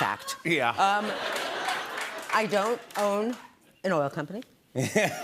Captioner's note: laughter